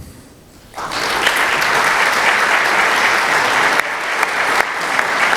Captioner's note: applause